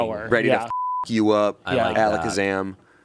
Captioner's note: beep